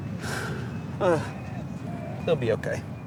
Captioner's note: sighs